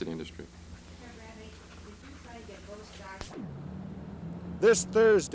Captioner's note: camera noise